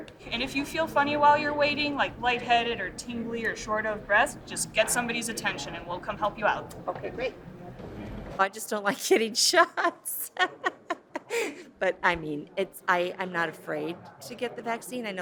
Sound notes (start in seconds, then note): 9.7 laughs